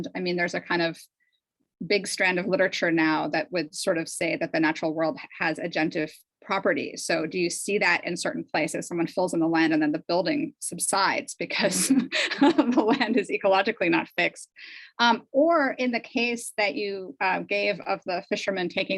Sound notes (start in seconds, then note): 11.7 laughs